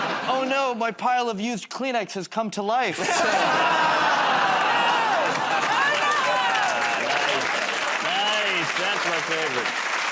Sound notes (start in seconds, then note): 3.1 audience "Oh"s